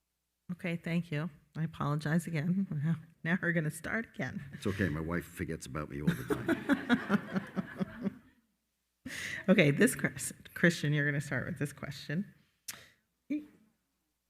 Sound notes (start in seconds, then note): 6.0 moderator and attendees laughing